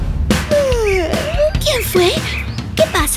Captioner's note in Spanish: Música alegre; Sonido de bostezo